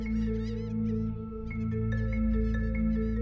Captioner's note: seagulls